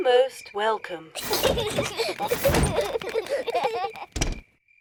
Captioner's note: children laugh